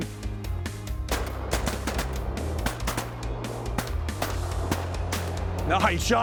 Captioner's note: gun shots